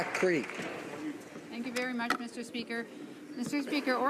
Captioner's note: some Applause